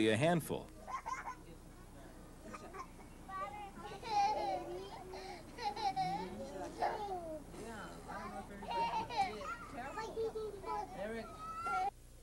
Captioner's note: people talking